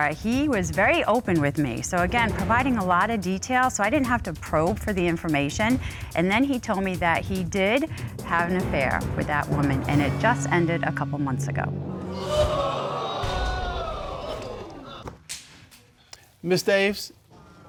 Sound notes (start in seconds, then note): 12.0 audience exclaiming